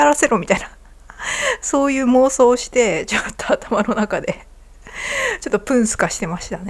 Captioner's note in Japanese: 息をのむ音